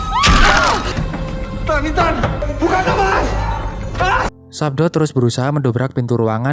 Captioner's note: shouting